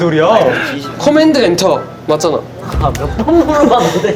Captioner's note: hesitant